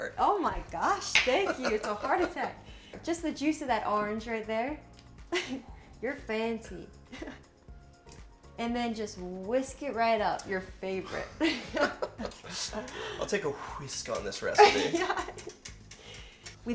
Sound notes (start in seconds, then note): 7.4 laughs; 11.1 both laugh; 14.5 laughs